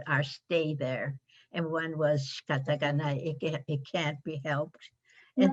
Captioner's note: japanese